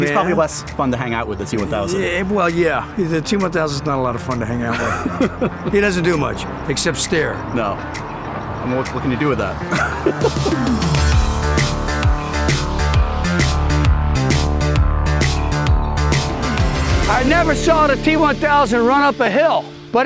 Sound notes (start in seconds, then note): 4.5 laughing; 9.4 laughing; 10.7 upbeat music